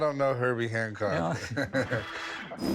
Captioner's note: chuckles